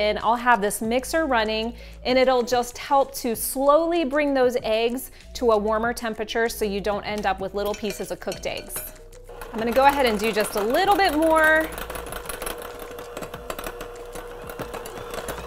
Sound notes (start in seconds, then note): 12.3 mixer rattles